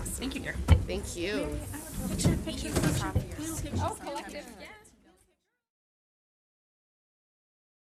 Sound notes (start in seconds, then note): 2.8 general chatter